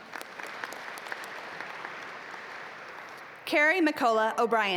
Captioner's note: audience applaud